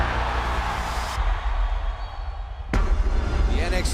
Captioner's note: crowd cheering